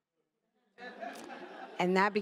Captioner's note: attendees laughing